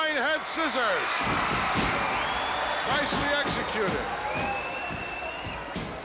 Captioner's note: audience cheering